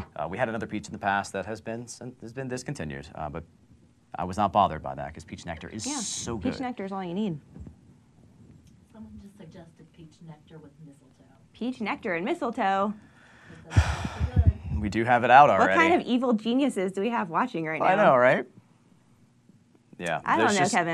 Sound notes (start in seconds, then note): 13.5 sighing